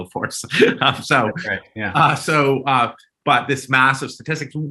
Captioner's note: chuckling